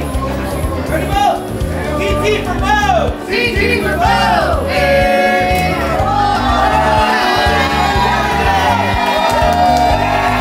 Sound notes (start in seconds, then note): 3.8 crowd; 5.4 crowd cheering; 6.3 crowd shouting and cheering